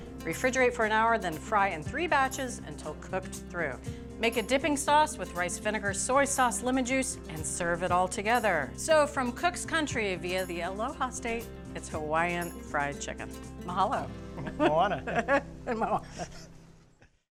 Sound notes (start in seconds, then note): 14.4 laughs